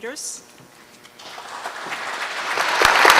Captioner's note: applause